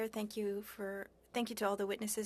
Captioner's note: speaking french